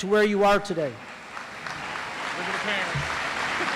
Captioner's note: audience applauds